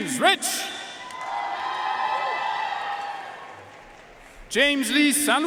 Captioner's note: audience cheering and applauding